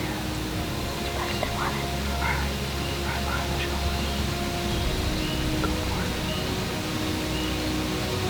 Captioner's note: whispering